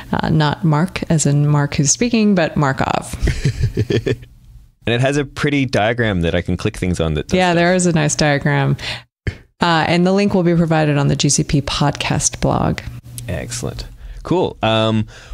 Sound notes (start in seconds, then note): 3.2 laughs